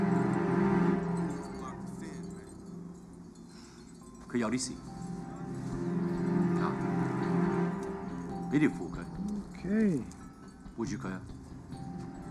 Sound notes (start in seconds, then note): 3.6 speaks Mandarin; 10.3 speaks Mandarin